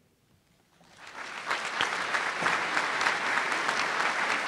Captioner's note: applause